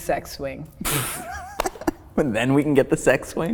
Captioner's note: laughing